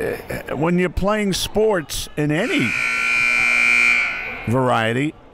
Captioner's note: clock buzzes